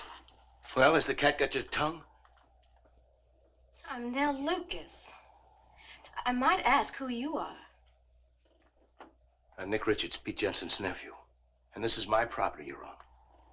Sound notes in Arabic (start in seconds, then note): none